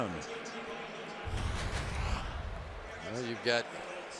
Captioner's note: pa announcement